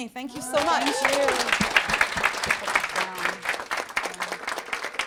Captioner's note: applause